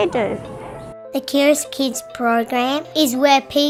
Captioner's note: child's voice